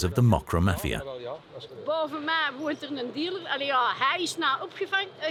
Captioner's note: Dutch spoken audio